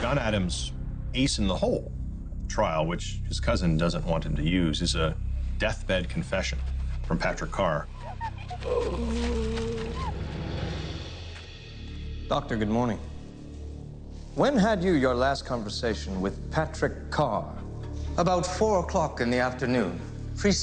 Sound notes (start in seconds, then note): 9.0 man groaning